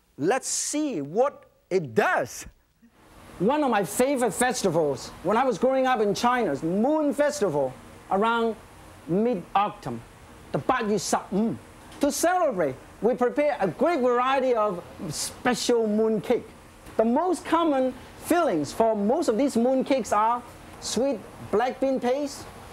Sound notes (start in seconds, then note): 10.5 foreign language